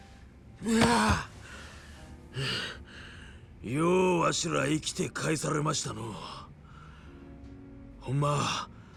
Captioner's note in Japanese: ため息